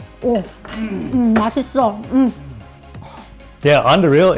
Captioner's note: speaks in a foreign language